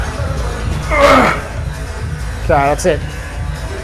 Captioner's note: grunting